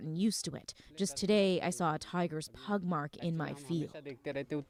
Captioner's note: speaking Foreign Language